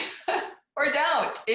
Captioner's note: laughs